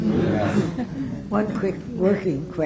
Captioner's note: laughter